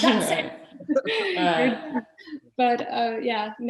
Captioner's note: laughing